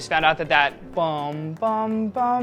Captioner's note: hums chime melody